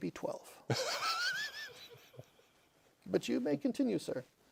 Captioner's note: laughter